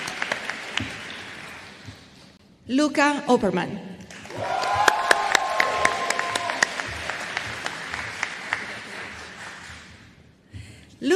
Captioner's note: applause